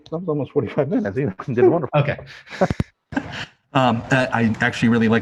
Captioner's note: laughs relieved